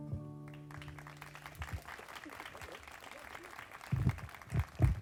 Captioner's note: group applauding